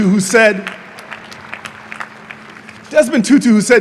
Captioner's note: audience applauding